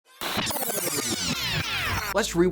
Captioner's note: distorted sound